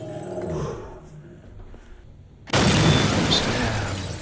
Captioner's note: Martin exhaling